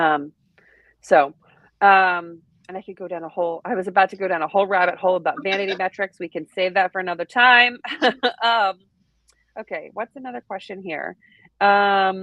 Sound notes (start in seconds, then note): 5.3 laughing; 8.4 chuckles